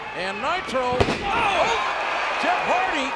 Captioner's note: bodies thud